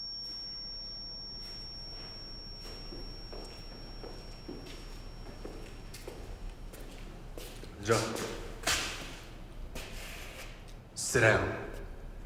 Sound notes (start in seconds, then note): 7.9 speaking Korean; 7.9 voiceover